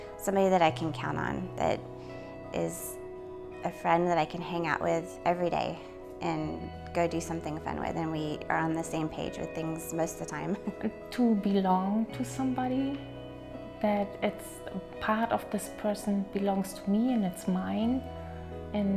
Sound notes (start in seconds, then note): 10.7 laughs